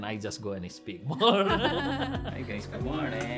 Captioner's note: both laughing